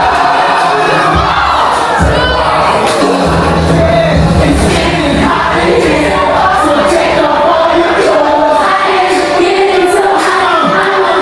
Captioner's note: crowd Cheering